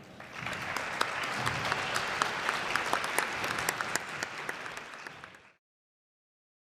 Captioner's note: applause